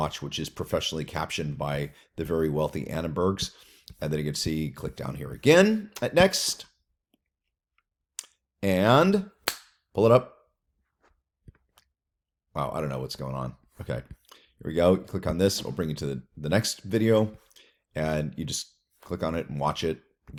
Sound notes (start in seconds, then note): 9.4 claps